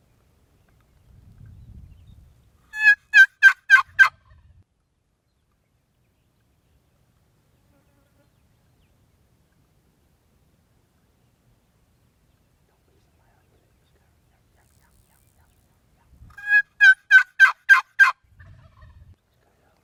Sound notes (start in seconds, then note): 2.7 box call cackling; 16.4 box call cackling